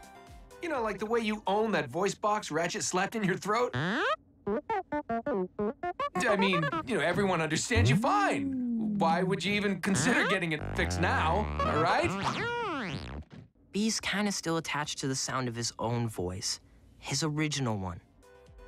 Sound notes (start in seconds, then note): 4.5 offended beeping; 12.0 still angrily beeping